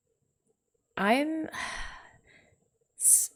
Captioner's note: sighs